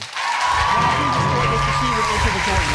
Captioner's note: audience applauding